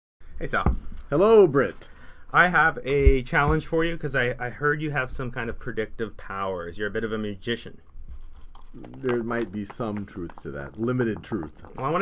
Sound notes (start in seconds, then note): 8.1 marbles Rattle